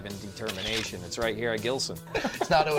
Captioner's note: laughs